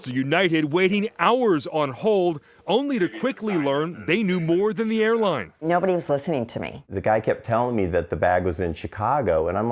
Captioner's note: laughs